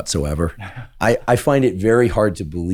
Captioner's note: laughs